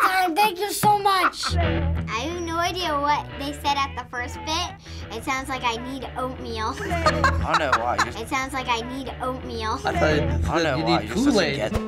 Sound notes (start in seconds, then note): 6.7 laughing; 11.6 soft rock ballad